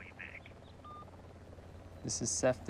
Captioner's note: beep